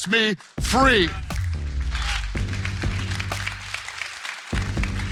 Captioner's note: church applauding